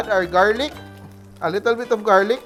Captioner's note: sizzle